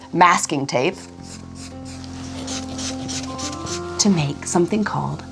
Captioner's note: pen scribbling